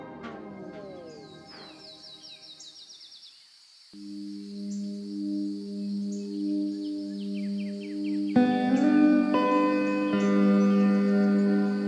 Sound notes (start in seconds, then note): 1.2 birds chirping; 8.8 soft guitar music